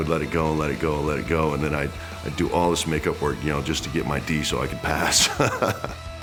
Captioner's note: laugh